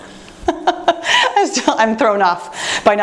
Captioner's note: laughing